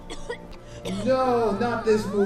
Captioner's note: coughs Princess dust